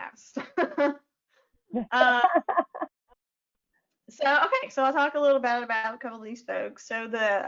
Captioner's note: chuckles